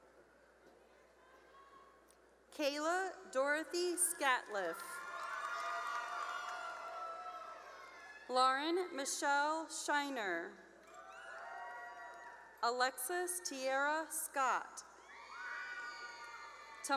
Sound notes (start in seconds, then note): 4.6 cheering; 11.2 cheering; 15.4 cheering